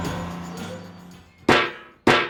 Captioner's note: sound of tapping